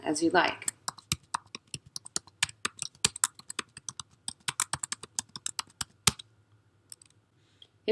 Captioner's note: typing